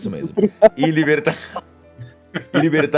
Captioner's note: laughter; everyone laughs